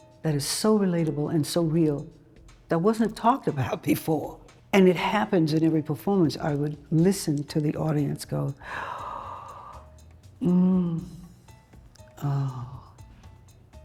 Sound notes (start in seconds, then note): 8.6 gasps